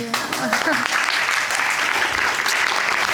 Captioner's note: audience applauding